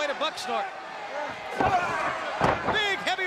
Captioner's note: crowd chatter